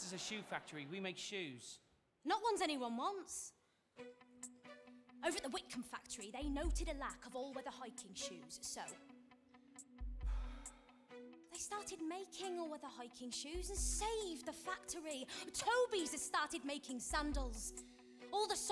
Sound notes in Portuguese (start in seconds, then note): 10.4 Charlie sighs